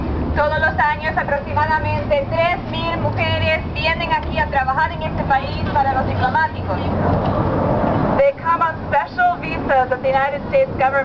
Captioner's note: spanish 00:00:50